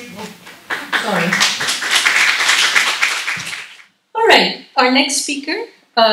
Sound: applause

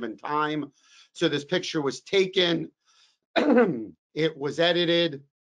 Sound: coughs

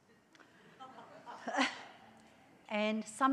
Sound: audience laughs

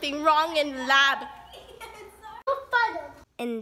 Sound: laughing

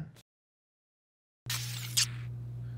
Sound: laptop glitches and powers off

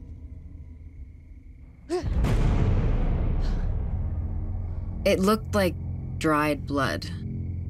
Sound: gasps

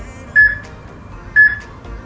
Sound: peep

